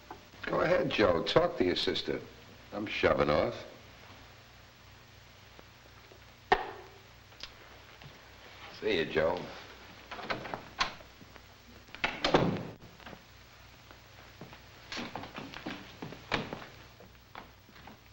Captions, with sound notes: - Go ahead, Joe, talk to your sister. I'm shoving off. See ya, Joe. (door thuds shut)